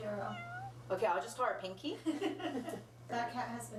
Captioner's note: laughs